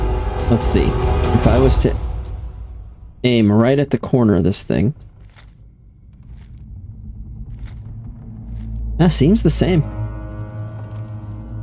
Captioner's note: gunshots